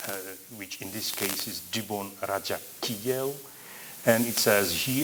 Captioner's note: non-english